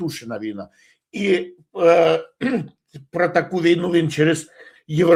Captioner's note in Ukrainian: прочищення горла